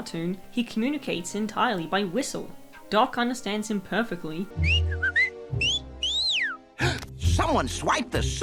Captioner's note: whistle-whistle; gasp!